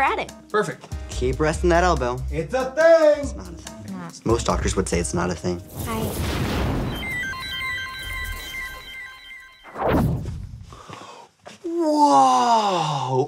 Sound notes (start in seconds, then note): 5.7 electricity whirring; 6.3 mysterious music